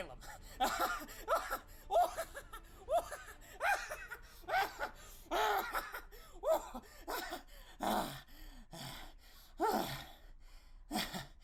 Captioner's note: laughs for a long while